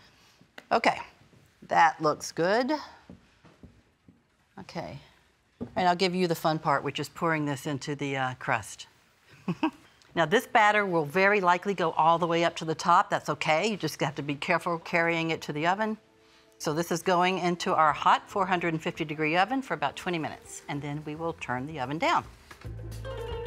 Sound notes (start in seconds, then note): 9.4 chuckles